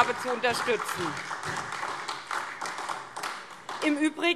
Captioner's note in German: Beifall